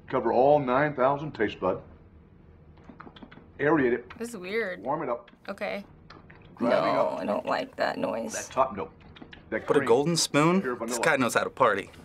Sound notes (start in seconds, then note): 2.8 smacks lips; 9.1 smacking lips